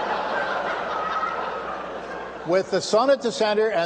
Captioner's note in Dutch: gelach